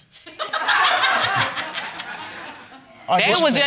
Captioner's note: all laughing